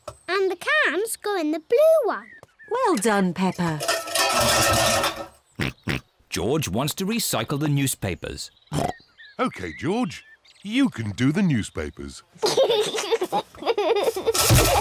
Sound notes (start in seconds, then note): 3.7 cans clatter; 5.5 snorts; 12.4 giggles